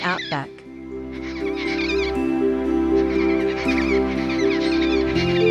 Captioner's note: bird sounds